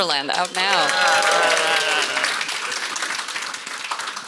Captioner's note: audience cheers